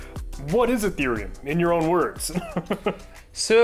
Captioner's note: chuckling